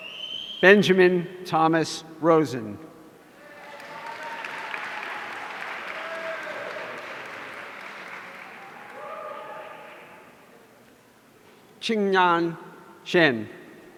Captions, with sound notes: Benjamin Thomas Rosen. (audience applauding) Qinnan Shen.